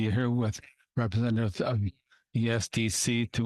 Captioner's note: speaking French